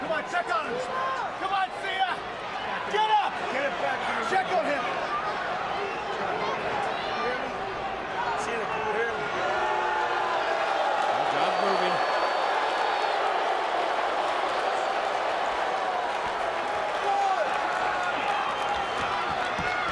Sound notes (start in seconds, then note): 9.9 crowd booing